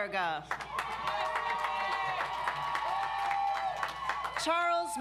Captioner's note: audience applauds